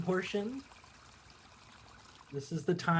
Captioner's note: trickling water fades away